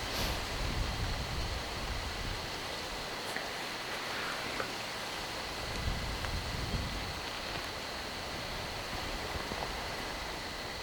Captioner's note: wind